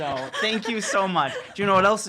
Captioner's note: laughs